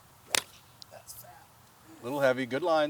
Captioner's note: speaking faintly